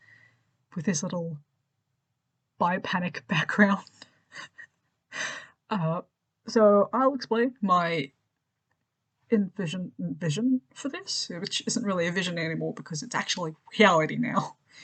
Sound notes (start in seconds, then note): 5.1 laughs